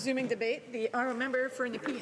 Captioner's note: speaking Alternate Language